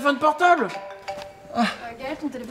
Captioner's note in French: bruit du téléphone